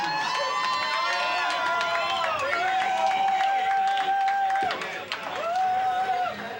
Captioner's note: cheering